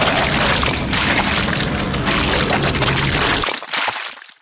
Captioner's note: sounds of a chainsaw dismembering; sounds of splatter